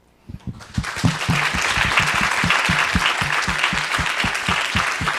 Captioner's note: audience applauding